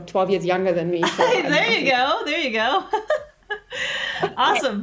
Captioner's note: laughs